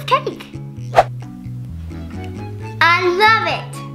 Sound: air whooshing

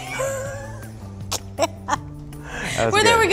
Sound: laughter

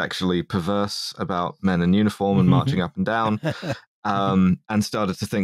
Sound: laugh softly

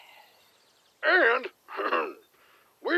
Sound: cough

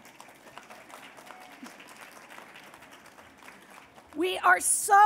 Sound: applause

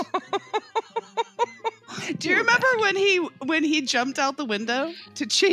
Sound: laughter

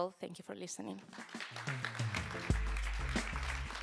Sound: applause

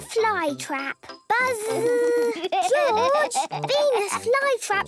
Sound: George laughing

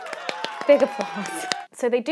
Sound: host clapping; audience cheering

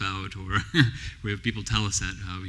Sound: laughs

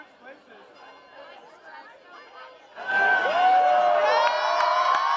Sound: cheering & applause

